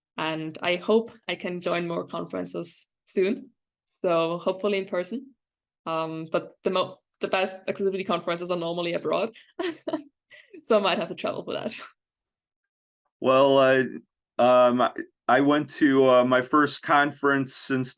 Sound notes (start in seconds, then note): 9.6 chuckles